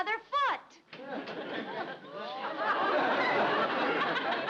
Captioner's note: audience laughs